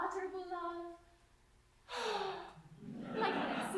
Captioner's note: they sigh dreamily